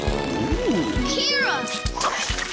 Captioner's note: whirring